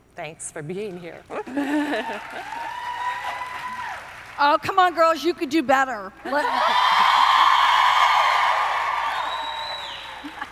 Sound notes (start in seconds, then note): 1.8 audience cheering; 6.2 audience cheering